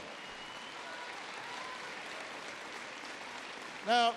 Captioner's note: applause